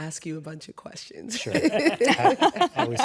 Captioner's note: laughter